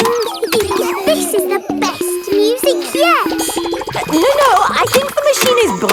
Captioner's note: giggles